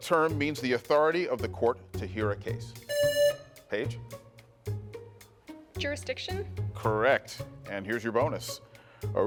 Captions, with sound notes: What term means the authority of the court to hear a case? (buzzer rings) Paige? - Jurisdiction? - Correct. And here's your bonus.